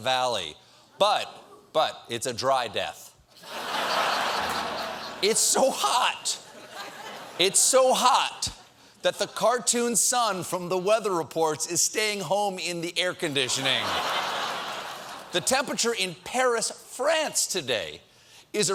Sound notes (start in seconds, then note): 3.4 laughter